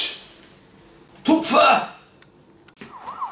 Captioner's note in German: schmerzverzerrte Stimme; Krankenwagensirene im Hintergrund